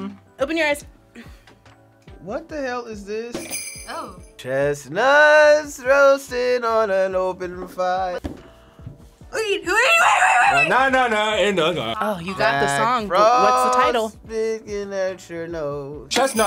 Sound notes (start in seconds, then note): 3.3 bells jingling; 8.2 gasps